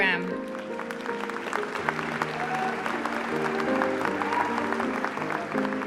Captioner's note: applause